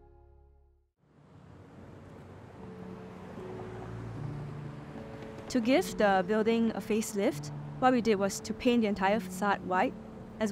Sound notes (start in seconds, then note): 1.1 gentle music; 1.6 car engine revving